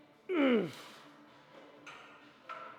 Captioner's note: grunting